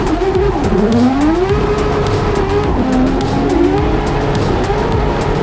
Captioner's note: race car revving continues